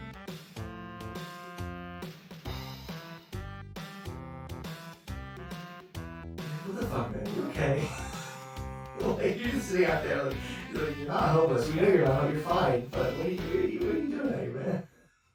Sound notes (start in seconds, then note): 7.7 wheezing